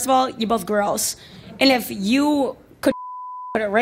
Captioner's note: beep